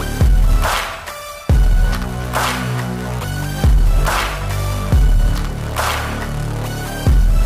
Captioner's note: Tepuk tangan